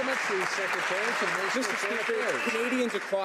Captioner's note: some Applause